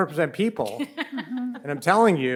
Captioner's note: panel laughs